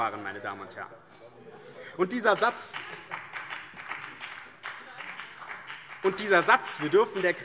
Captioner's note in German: Beifall BÜNDNIS 90/DIE GRÜNEN und CDU - Unruhe